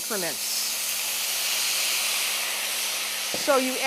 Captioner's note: sizzling